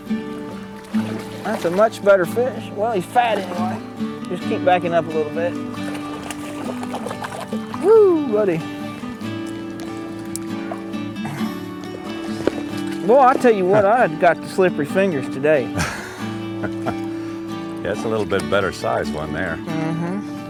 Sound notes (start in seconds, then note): 15.7 laughter